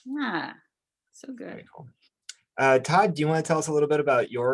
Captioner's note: lip smack